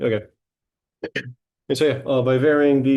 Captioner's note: clears throat